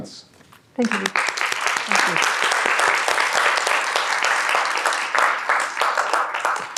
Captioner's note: audience applauds